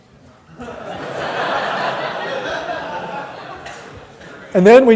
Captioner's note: laughter